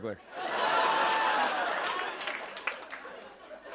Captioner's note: laughter